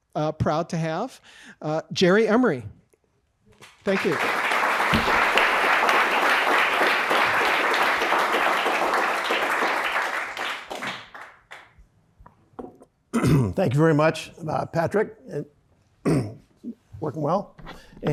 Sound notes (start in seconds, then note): 3.6 audience applauds